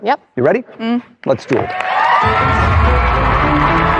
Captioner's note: cheering and applause